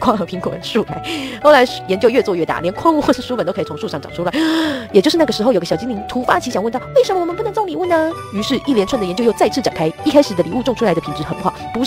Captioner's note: inhale